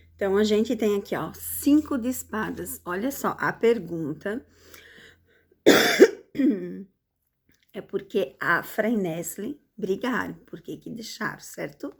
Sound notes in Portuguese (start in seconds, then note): 5.6 tosse; 5.7 limpando a garganta